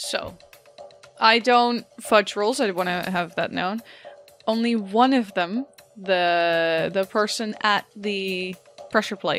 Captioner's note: none